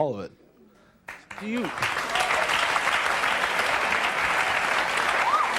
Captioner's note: audience clapping